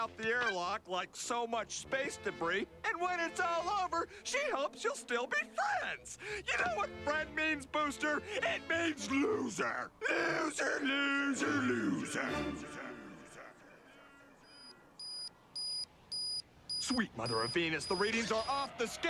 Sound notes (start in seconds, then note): 13.6 buzz's voice echoing; 16.6 beeping